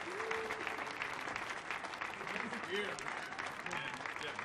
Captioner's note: audience clapping; audience cheering